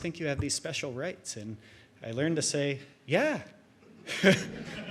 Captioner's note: chuckles